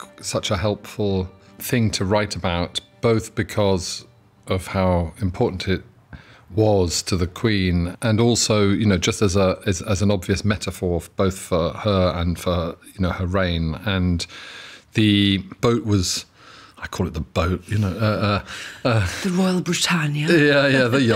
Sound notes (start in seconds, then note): 17.9 chuckles